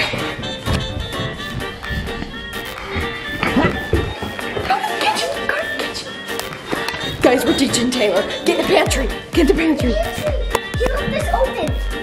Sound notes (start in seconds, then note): 1.2 whispering; 3.2 grunts; 5.0 whispering; 7.1 normal voice